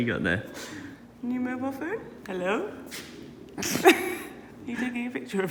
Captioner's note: laughs